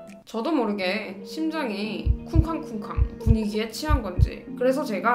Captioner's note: heart beating